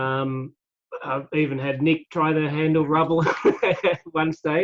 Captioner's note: laughing